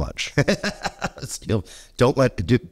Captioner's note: laughs